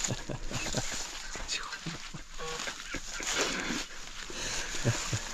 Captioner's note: laughs; leaves crunching